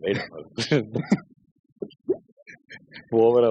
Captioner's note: laughing